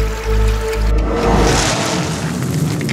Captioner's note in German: Rauschen